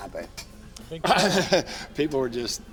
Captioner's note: laughs